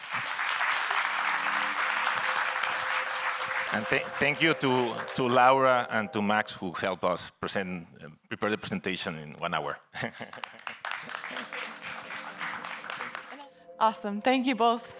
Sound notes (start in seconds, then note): 0.0 audience members applauding; 9.9 chuckles; 10.2 audience members applauding; 11.8 gentle electronic music